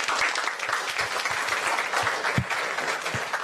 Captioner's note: applause